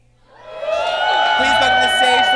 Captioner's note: audience cheers